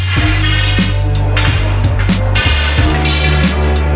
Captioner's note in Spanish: Palos traqueteo